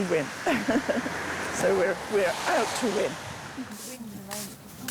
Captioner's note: laughs